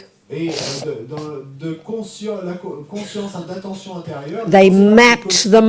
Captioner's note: audience member speaks in French